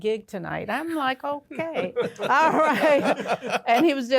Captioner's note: all laugh